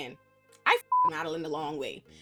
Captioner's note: beep